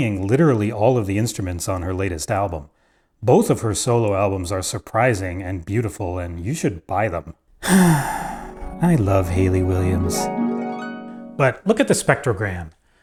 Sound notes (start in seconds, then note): 7.6 sigh